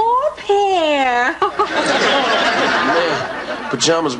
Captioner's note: laughs